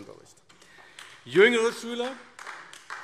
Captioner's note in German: Beifall AfD